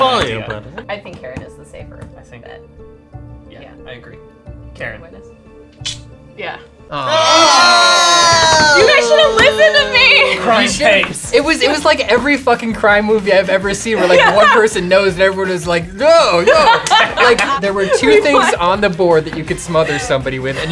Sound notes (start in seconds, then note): 7.0 cheering; 16.0 laughing